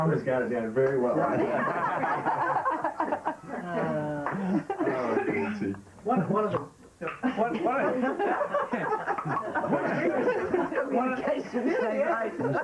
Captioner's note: laughter